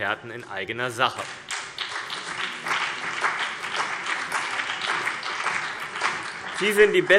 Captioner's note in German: Beifall CDU und BÜNDNIS 90/DIE GRÜNEN